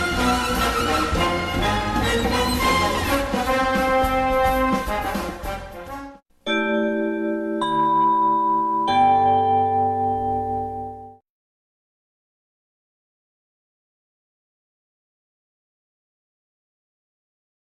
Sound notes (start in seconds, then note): 6.4 chime plays; 11.6 silence